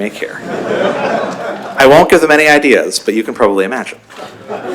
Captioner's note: laughter; laughter